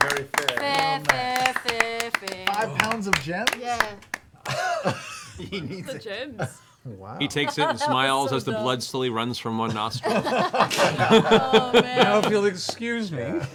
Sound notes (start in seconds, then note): 9.6 laughter